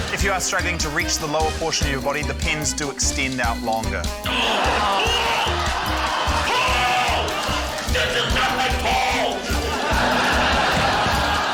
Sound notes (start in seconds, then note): 4.3 grunts; 4.3 laughter; 9.6 laughter